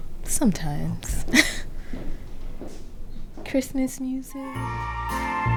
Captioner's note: she laughs